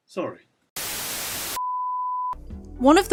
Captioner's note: static